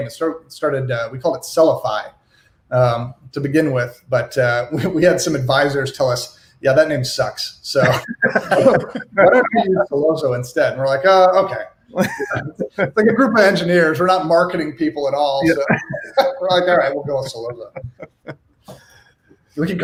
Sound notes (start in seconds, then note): 7.8 laughs; 15.3 laughs